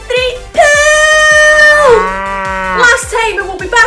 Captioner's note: cow mooing